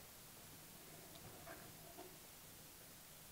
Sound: hand lightly scraping on block

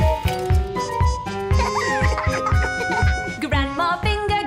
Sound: laughter

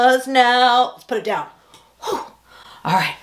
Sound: sharply exhales

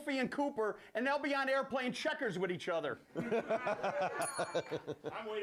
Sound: bell rings

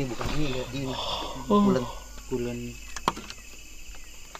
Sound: yawn

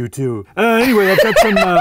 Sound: laughs

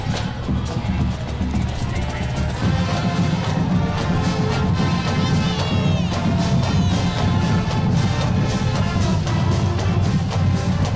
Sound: cheers and applause

